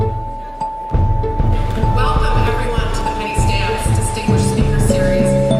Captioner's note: audience clapping